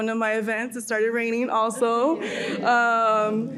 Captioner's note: audience laughing